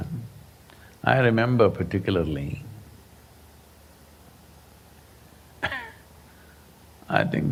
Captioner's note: laughs